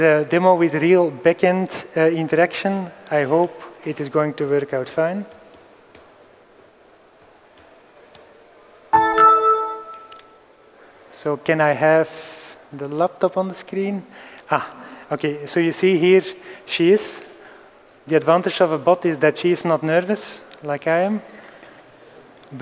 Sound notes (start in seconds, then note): 8.9 ding-ding